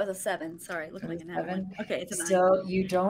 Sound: group chattering

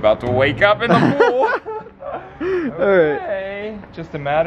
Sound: both laugh

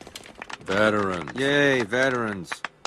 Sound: mild applause

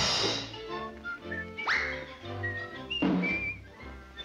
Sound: cymbals crash; whistling continues

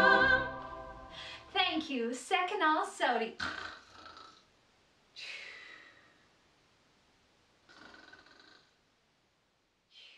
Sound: snoring

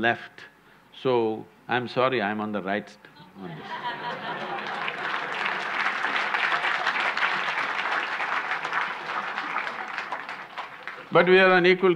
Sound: laughter/Applause

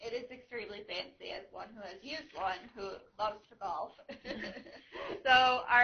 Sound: laughing

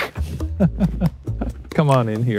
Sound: laughing

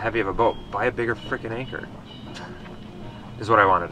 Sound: chuckles

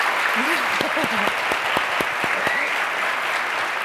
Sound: laughs

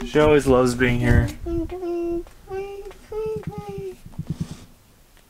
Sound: babbling

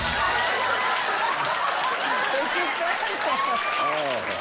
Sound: audience laughing

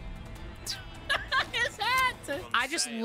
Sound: laughter

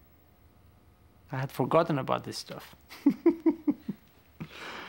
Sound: laughs

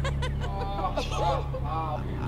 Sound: laughter/giggles

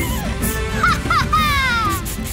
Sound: laughing

